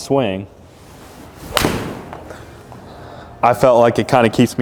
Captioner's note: ball whacking